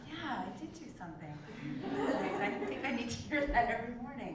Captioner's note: laugh